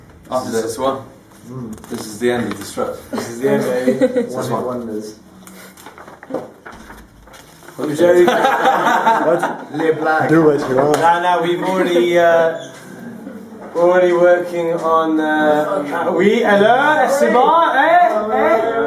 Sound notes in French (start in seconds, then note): 8.1 rires; 12.4 porte de la loge s'ouvre